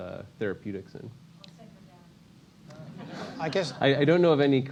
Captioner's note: laugh